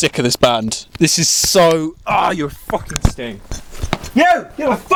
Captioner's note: groan